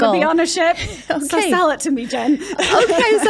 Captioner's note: laughs